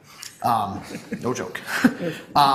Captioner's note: laugh